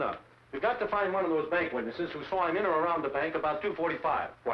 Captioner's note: none